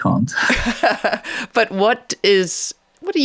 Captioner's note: chuckling